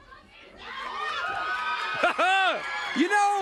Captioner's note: crowd cheering